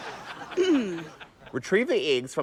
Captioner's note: clears throat